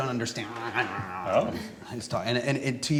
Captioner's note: grumbling